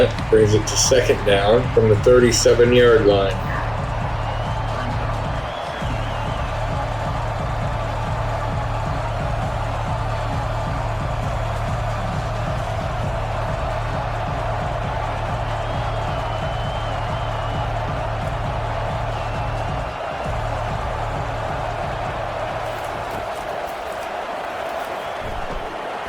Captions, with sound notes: Brings it to second down from the 37 yard line. [Crowd Noises] [Crowd Noises]